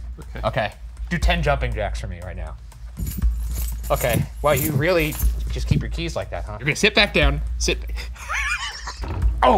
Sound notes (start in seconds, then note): 2.8 keys rattling; 8.0 laughing